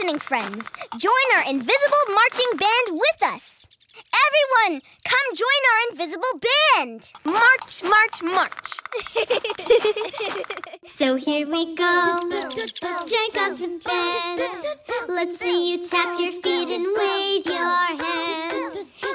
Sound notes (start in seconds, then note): 8.9 both giggling